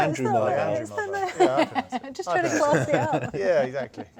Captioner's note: laughs